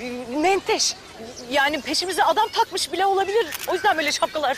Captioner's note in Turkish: Fotoğraf çekme sesi